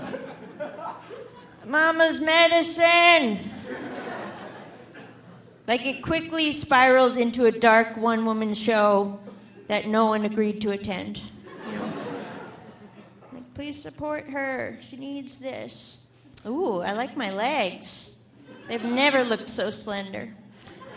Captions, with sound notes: Mama's medicine. (audience laughing) Like it quickly spirals into a dark one woman show that no one agreed to attend. (audience laughing) Please support her, she needs this. Oh! I like my legs. They've never looked so slender.